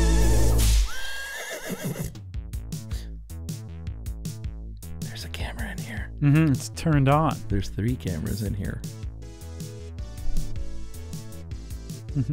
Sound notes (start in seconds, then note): 0.8 horse neighs